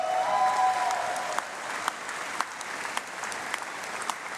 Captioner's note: applause